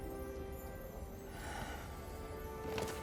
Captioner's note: sighs